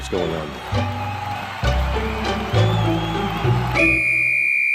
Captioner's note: crowd cheering; light whimsical music; whistle blowing